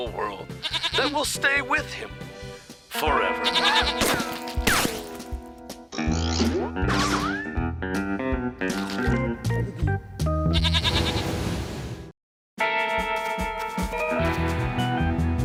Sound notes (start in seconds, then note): 0.5 bleats; 3.7 screaming; 10.5 bleats